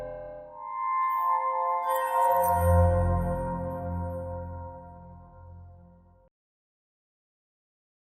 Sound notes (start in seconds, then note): 0.7 chiming